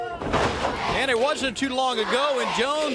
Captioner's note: crowd cheering